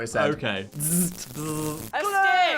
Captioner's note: both imitating electric shock